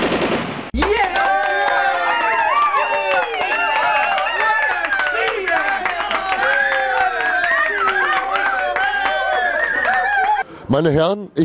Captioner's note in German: allgemeiner Jubel